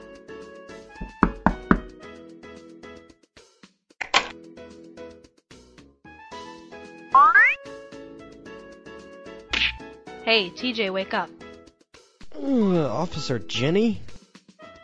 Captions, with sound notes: *faster knocking* Hey Teejay, wake up! Officer Jenny?